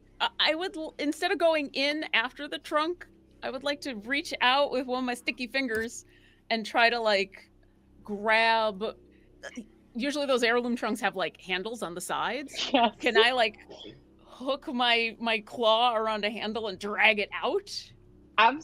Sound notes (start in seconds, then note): 12.5 laughs